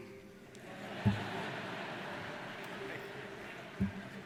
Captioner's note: laughing